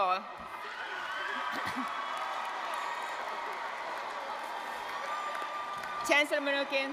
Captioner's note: cheers